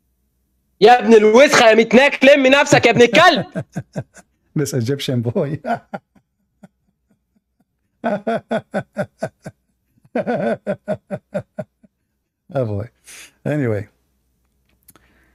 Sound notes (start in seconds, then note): 8.0 Ketawa